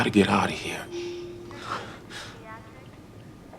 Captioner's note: on hospital loudspeaker